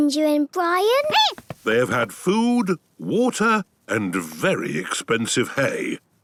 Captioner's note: squeaking